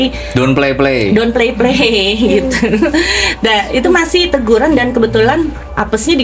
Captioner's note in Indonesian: tertawa